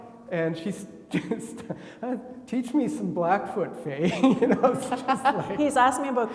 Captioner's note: laughs; laughing